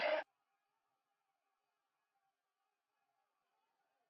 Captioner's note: townsfolk clamoring